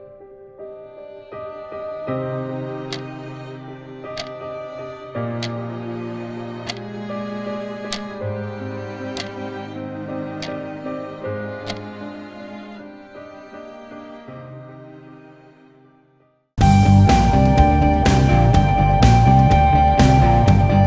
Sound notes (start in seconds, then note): 4.9 clock ticks; 16.6 upbeat music